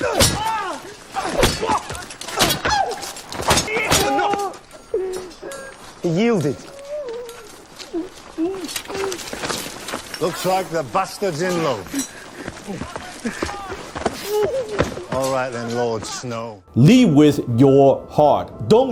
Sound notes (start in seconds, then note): 0.0 smacking and moaning; 6.4 Sam whimpering